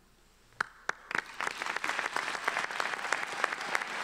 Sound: applause

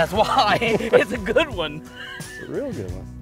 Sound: chuckles

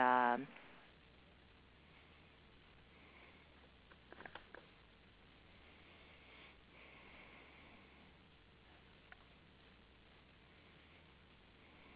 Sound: silence

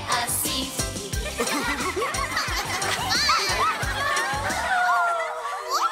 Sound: everyone laughs

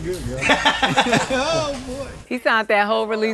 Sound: laugh

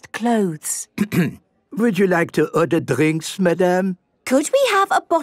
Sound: clears throat

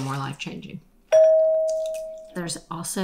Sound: bell dings

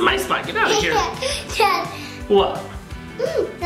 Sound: laughs

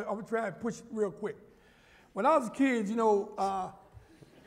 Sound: laughter

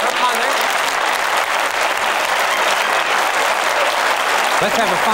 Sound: applause

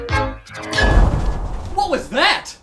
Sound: earthquake

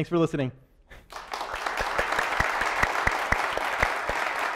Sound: applause

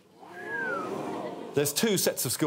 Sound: whistles

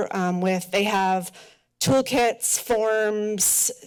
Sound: none

